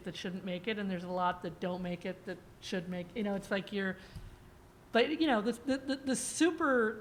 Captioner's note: stammers